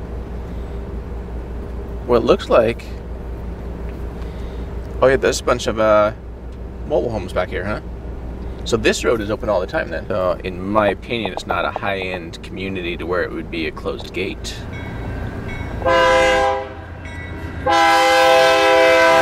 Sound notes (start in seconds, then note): 14.9 train horn blowing